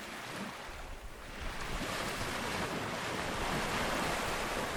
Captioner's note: waves crashing